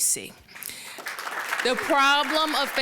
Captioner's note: applause